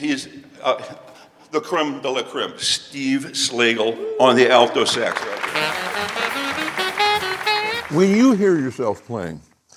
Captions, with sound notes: He's the crème de la crème. Steve Slagle on the Alto sax. (audience applauds) (smooth saxophone music) - When you hear yourself playing,